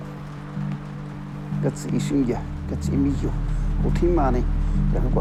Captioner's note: speaking Spanish